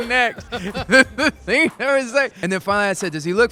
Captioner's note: laughs